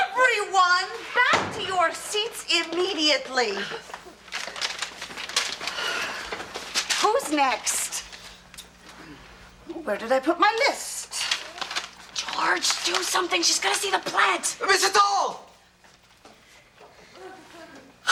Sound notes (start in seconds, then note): 6.1 sigh